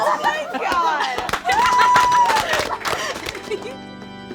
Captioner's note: all applaud; somber organ music